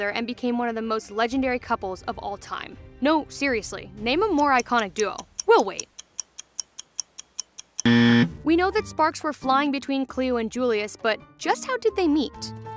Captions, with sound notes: and became one of the most legendary couples of all time. No, seriously-- name a more iconic duo. We'll wait. [CLOCK TICKING] [BUZZER] We know that sparks were flying between Cleo and Julius, but just how did they meet?